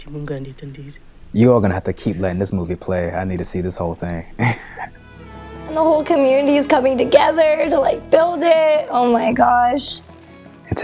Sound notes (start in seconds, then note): 4.3 chuckles